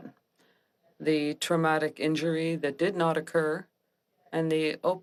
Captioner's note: speaking French